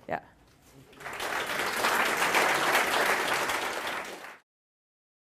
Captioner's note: applause